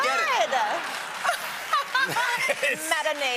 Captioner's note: laughter